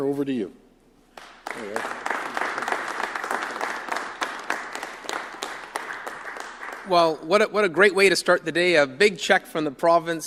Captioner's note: applause